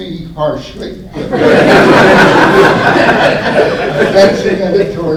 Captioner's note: laughter